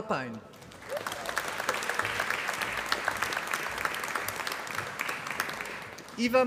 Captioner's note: applause